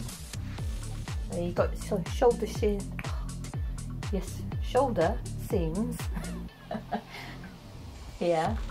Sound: laughs

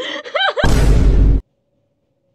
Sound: Gordon laughing at his pain; Loud vine boom

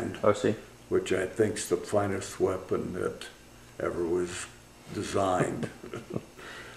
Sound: laughter

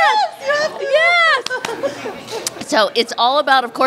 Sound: applause lightly

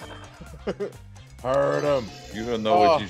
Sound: laugh

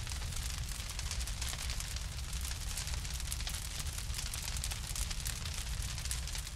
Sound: the sound of fire crackling

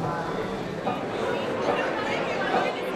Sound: indistinct chatter; light banjo plucking

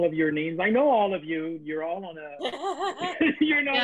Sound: audience Laughter

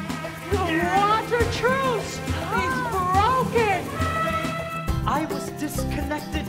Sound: elephant trumpet

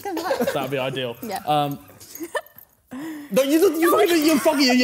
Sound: laughing

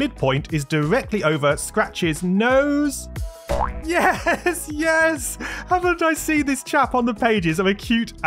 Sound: laughing

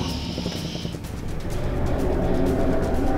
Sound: roar

